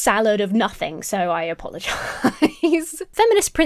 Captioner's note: laughing